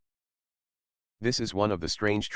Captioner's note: pause